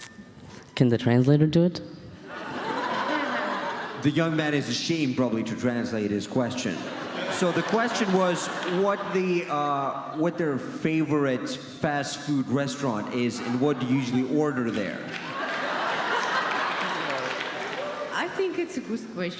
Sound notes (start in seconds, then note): 2.2 audience laughs; 11.5 audience laughs and claps; 16.1 audience laughs